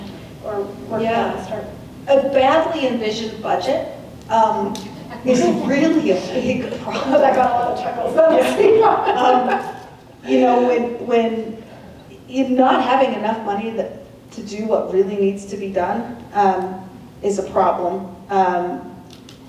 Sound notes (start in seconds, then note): 6.8 chuckles; 9.0 laughter